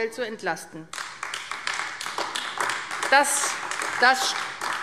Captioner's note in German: Beifall AfD